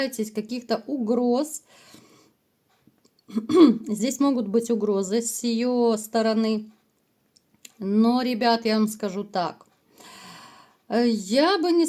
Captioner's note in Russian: откашливается